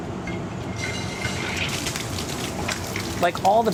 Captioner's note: sizzling pan